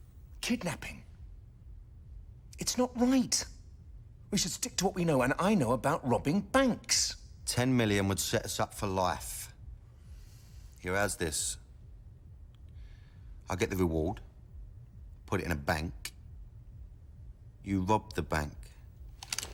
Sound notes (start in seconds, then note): none